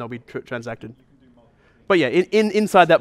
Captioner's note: voiceover